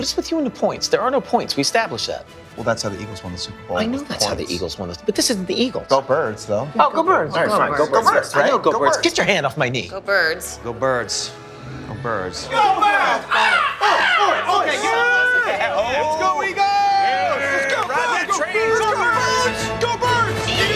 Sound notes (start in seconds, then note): 13.4 caw caw